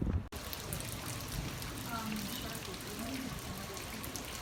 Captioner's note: water splashing